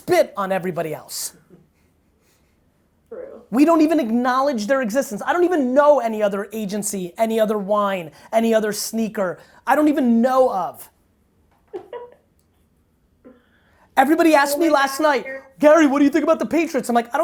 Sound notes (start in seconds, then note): 11.6 laughing